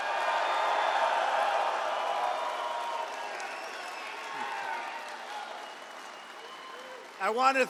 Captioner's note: applause